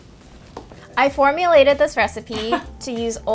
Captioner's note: chuckling